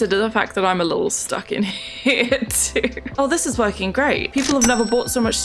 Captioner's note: laughs